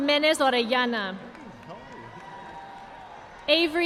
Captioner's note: audience applauding